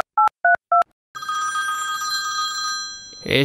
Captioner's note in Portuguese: Telefone toca; Discando no telefone